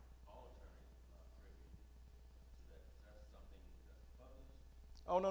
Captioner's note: male audience member speaking